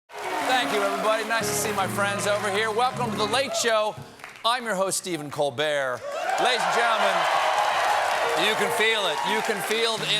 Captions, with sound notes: THANK YOU, EVERYBODY. NICE TO SEE MY FRIEND OVER HERE. WELCOME TO "THE LATE SHOW." I AM YOUR HOST, STEPHEN COLBERT. LADIES AND GENTLEMEN-- ( CHEERS AND APPLAUSE ) YOU CAN FEEL IT. YOU CAN FEEL IT IN THE ROOM.